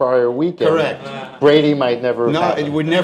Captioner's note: laughter